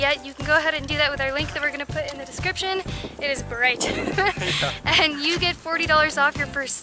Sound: laughter

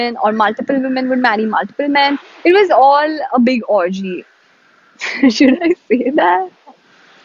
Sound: laughs uncomfortably

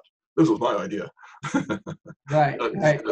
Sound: laughter

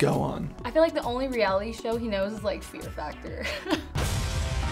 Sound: rock music; laughs

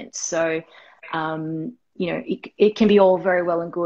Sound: none

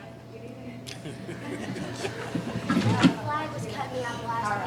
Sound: laughing

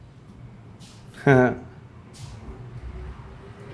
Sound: laughing

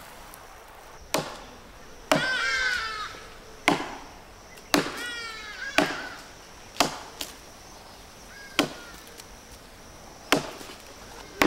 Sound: wood chopping

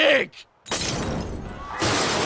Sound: glass smashes in the distance; explosions / alarms / general chaos

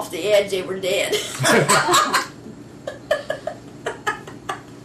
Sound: laughter

